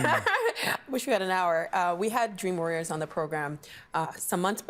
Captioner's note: laughs